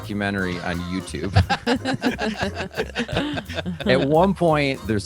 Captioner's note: all laughing